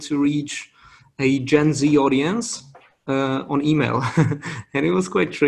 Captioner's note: laughs